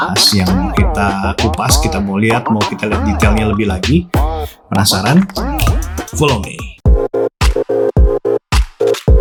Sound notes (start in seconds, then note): 5.6 snaps his finger